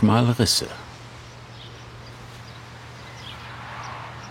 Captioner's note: wind noise, birds chirping